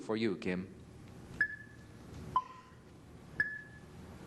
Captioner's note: clock ticking